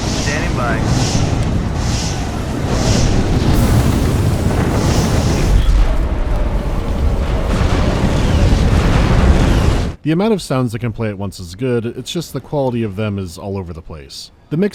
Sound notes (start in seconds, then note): 0.6 wizzing of lasers and rolling explosions; 5.6 howling of bombs, thumping cannon fire